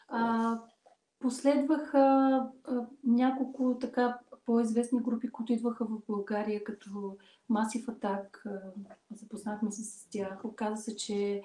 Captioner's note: foreign Language followed by English Interpreter